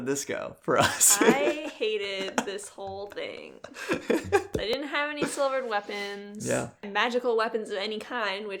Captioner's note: laughs